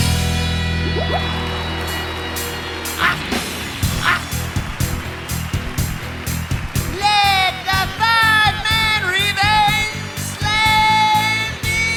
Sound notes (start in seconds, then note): 1.5 crowd cheering